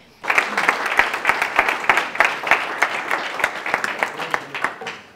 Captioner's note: applause